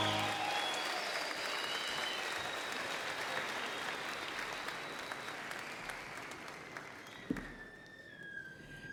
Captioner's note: cheers and Applause